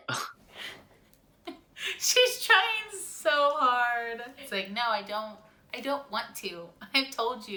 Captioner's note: laughs